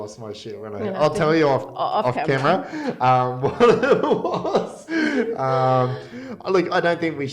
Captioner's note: laughing